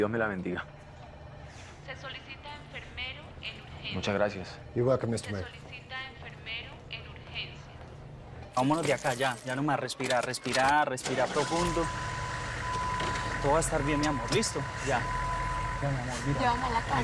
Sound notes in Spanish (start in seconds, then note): 11.0 Ruido al prender el motor